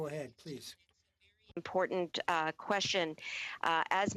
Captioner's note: speaking French